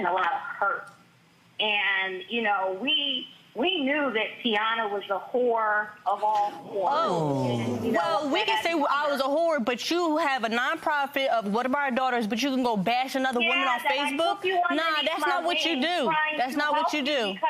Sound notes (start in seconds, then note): 7.0 crowd groaning